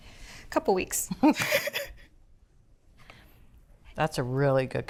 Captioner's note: both laugh